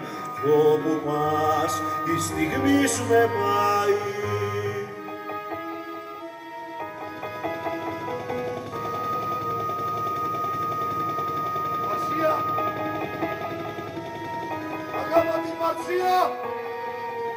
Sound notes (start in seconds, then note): 7.3 ακούγεται ελικόπτερο